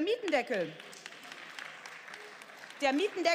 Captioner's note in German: Beifall